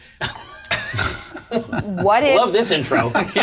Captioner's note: all laugh